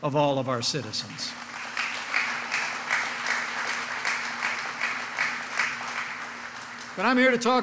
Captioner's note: applause